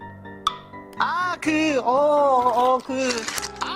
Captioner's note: rustle